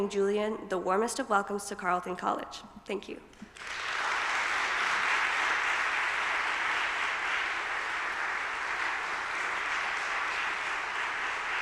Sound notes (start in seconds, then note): 3.4 audience applauding